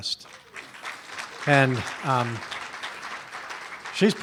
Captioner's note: applause